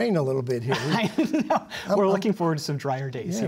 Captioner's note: chuckles